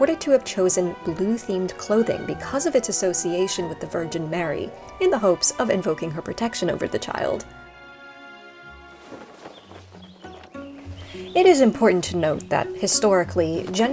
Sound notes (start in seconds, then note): 8.6 sheet ruffling in breeze; 9.3 whimsical music